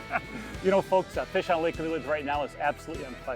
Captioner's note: laughs